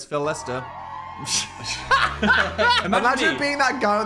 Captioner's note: both laugh